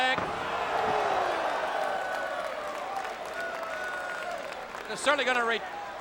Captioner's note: crowd clamoring; body thudding